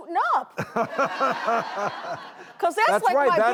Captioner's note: crowd laughs